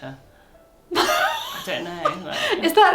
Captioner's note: laughs